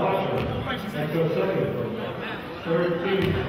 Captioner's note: murmurs